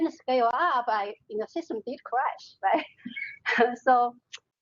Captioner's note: laughing